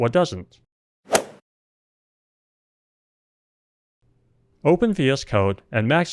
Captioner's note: golf swing sound effect